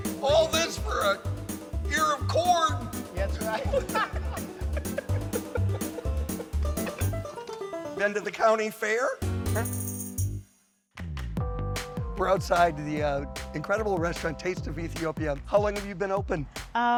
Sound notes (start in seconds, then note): 3.4 laughing; 7.0 rapid string music; 11.0 low rhythmic music